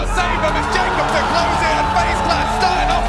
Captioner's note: people cheering